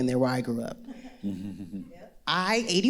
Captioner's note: all laughing